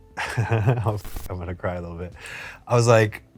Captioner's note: laughs